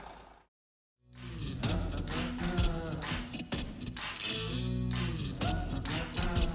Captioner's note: slow tempo rock music; man vocalizing; man vocalizing